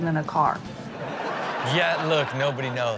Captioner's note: audience laughs